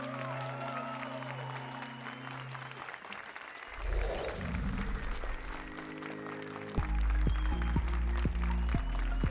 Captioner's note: applause and cheers